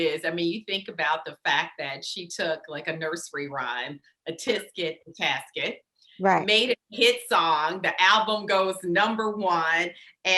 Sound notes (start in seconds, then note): none